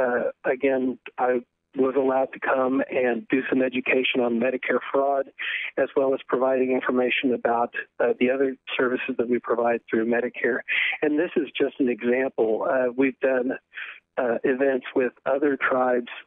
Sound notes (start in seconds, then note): 2.1 speaking in foreign language